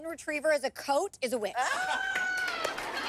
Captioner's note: all laugh